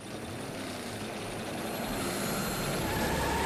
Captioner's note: engines revving; tires screeching